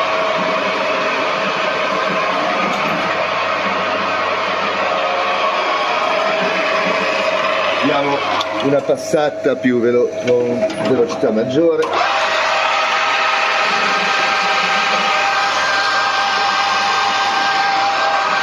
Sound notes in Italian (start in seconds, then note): 6.3 Applauso